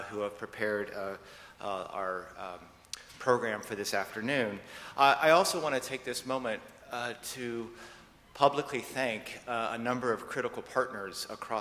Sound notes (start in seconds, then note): none